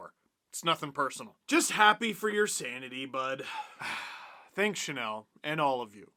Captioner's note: sigh